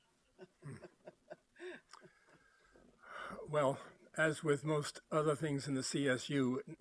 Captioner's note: laughs